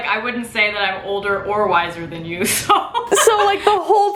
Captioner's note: laughs